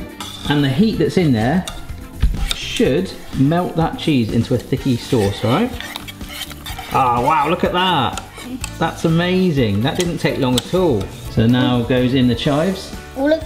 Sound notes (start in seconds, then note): 6.1 whisking